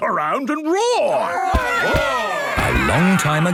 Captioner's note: all roaring